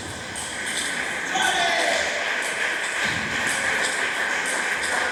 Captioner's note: clap